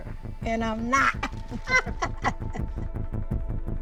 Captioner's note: laughter